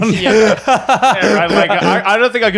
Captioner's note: laughing